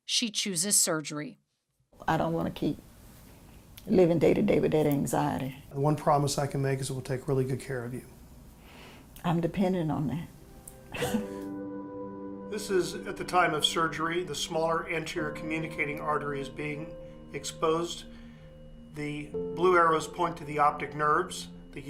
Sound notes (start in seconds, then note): 10.9 chuckles